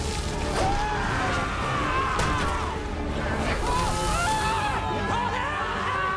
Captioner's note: men screaming